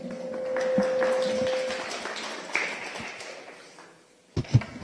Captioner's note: clapping